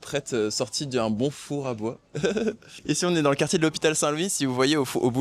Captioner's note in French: rires